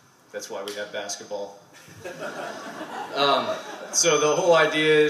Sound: laughter

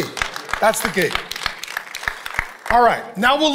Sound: congregation applauding

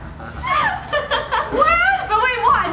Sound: laughing

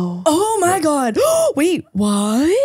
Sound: gasping

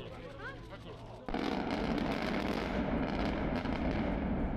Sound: bridge explodes

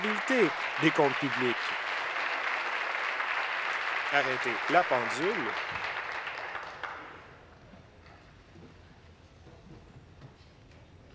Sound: applause

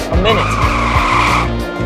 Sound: tire screech

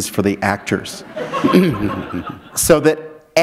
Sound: laughter

